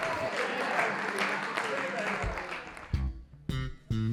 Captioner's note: applause